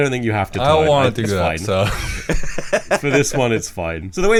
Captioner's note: laughs